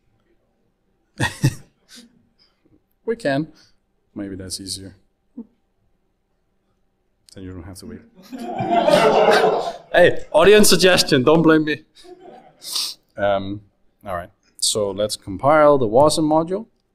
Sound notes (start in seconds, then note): 1.2 laughs; 8.2 audience laughs